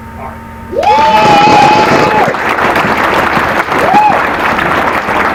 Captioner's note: applause